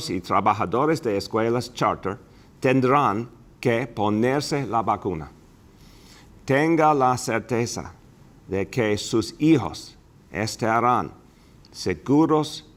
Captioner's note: speaking spanish